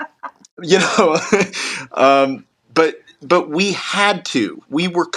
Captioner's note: laugh